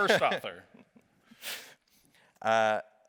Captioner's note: laughs